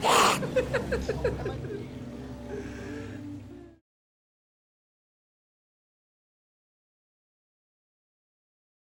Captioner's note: laughter